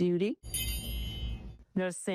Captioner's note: bell chimes